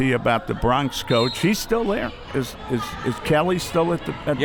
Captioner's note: whistle